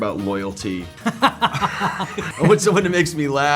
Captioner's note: both laughing